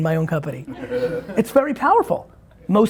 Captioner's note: laughing